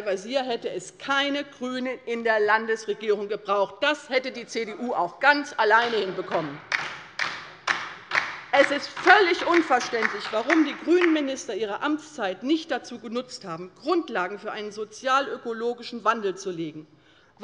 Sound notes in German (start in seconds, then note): 6.3 Beifall bei der LINKEN